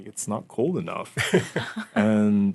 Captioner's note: laughing